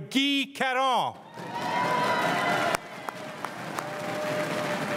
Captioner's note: crowd cheering and applauding